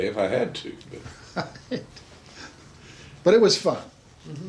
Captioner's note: chuckles